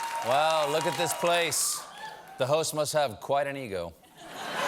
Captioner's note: cheers and applause